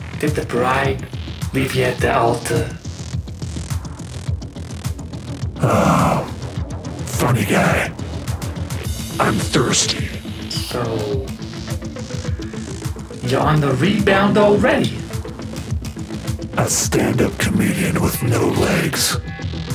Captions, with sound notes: Did the bride leave you at the altar? [sighs] Funny guy. I’m thirsty. So... You’re on the rebound already. A stand up comedian with no legs.